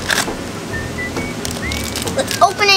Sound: whistling

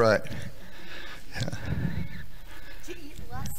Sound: audience laughing

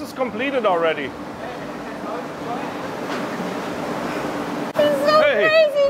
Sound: machinery humming

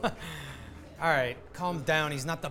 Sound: laugh

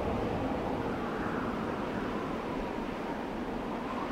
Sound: wind blowing

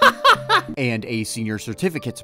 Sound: laughter

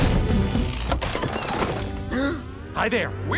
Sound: door shutting; gasping

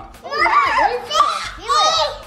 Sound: vocalizing

